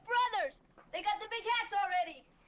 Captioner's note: none